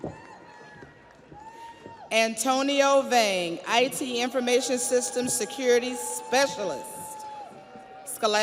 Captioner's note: audience applauds; audience cheers